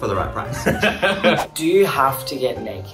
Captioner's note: laughs